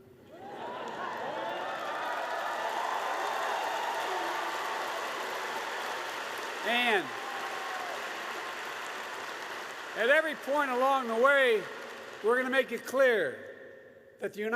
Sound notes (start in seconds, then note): 1.0 laughter and applause